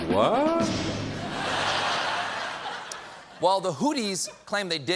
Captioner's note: laughter